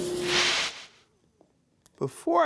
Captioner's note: air whooshes